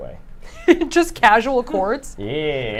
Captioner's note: laughs